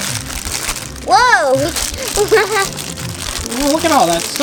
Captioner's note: laughs